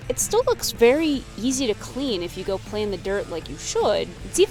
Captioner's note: none